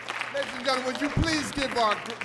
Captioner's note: applause